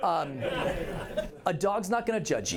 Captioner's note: laughter